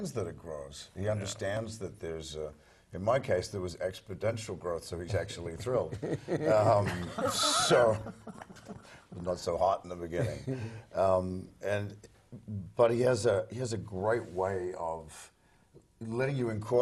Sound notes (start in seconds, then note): 6.0 laugh